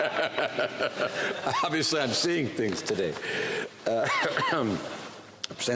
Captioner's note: laughter